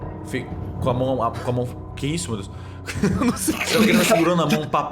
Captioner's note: laugh